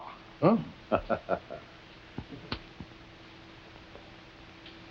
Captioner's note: Dr. Chumley laughing